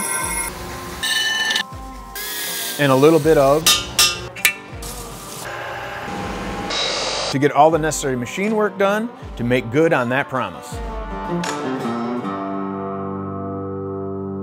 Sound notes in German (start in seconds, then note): 0.1 Werkzeugsurren; 0.1 metallisches Klirren; 3.8 Werkzeugsurren